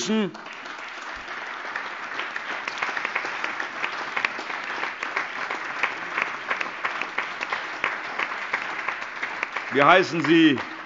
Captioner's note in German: Beifall